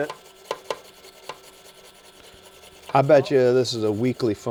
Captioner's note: bristles scrap